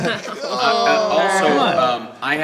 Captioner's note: groans